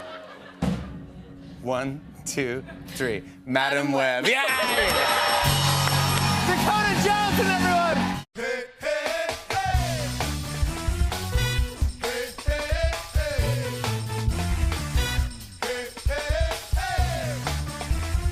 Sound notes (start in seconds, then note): 0.6 drumroll; 4.3 dinging; 4.4 cheers and applause